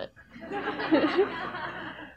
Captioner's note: audience laughs